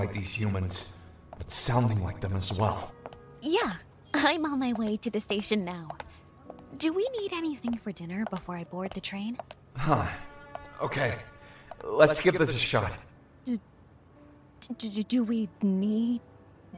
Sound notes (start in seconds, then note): 13.6 in Female Passerby’s voice